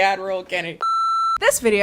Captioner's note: loud beep